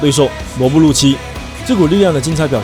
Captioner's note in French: en anglais seulement